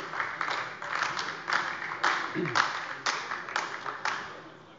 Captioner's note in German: Beifall AfD